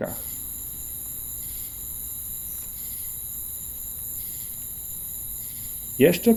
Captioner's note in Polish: cykanie świerszczy